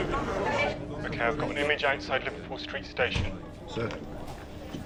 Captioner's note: man over phone